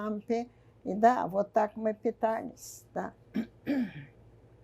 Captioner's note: clears throat